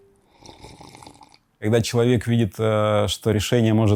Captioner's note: speaking russian